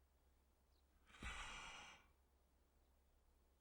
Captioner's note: door closes